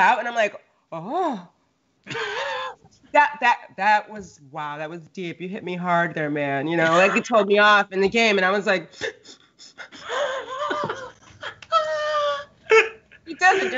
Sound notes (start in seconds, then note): 9.0 sniffing; 10.9 Brennan laughing